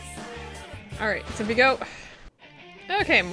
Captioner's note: sigh